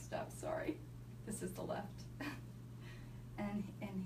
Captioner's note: chuckles